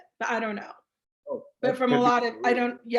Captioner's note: speaking faintly